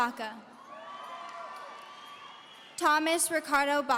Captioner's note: audience cheering